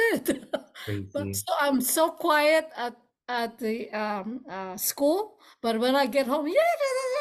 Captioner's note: laughs; chattering noise